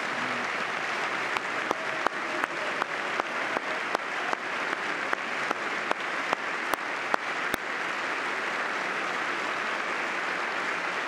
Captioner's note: applause